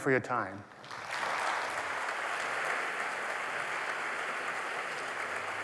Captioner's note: applause